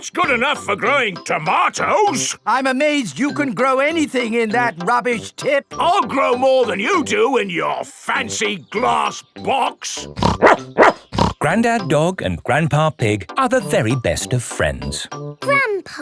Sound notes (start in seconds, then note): 10.1 snorts; 10.2 barks